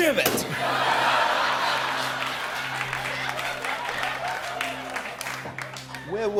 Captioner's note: laughter